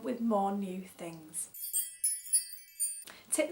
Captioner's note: tinkling bell noise